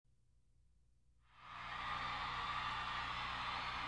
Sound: crowd cheering

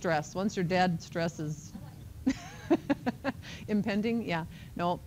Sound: laughs

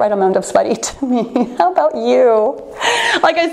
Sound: laughing

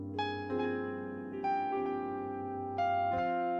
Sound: none

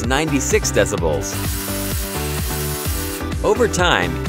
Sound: saw whirring

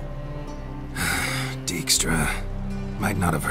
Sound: heavy sigh

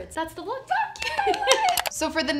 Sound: cheers

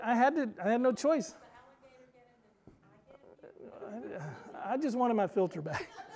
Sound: murmurs

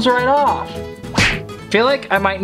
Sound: slapping

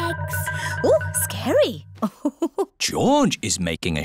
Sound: laughs

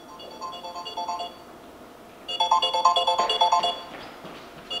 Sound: cell phone rings

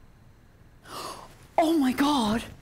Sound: inhales

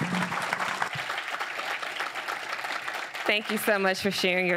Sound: audience applauds

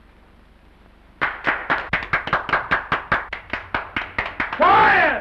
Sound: applause

